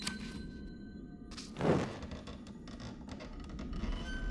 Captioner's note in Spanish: papel arrastrando